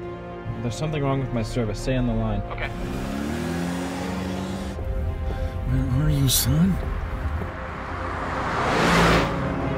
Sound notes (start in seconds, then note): 2.4 revving engine; 6.6 car zooming